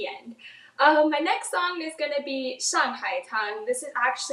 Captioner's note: speaks in foreign language